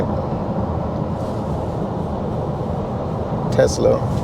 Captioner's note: car engine